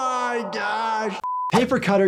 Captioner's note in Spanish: pitido